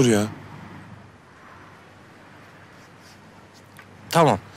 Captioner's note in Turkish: Araba sesleri